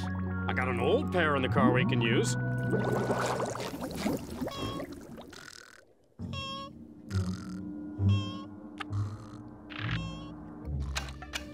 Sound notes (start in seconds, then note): 4.2 snoring